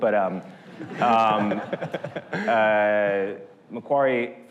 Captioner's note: audience laughter